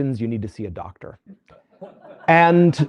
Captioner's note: laughter